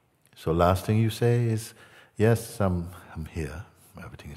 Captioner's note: none